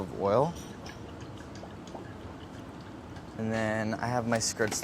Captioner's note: oil glugging out of bottle